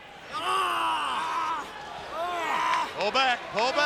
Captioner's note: wrestlers grunting